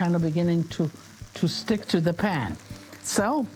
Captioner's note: pan sizzling lightly